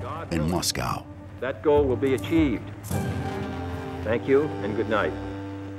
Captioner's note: John Fitzgerald Kennedy speaking